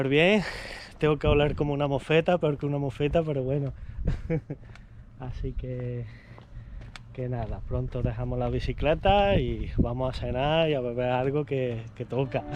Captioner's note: laughs